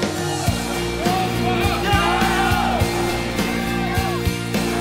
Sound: cheering and chanting; rock music

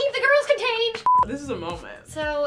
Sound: beep

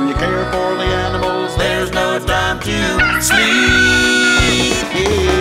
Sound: cock-a-doodle-doo!

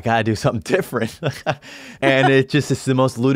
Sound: laughs

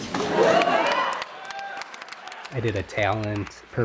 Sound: crowd cheers

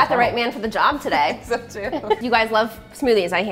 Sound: laughs

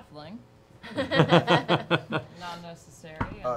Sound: laughing

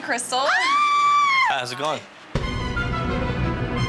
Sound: screams

